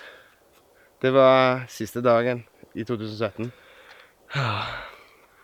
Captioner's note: sighing